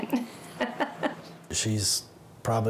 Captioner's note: chuckles